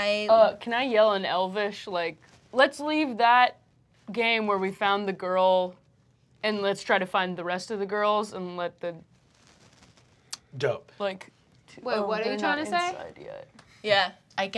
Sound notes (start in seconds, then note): none